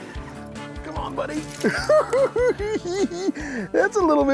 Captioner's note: giggling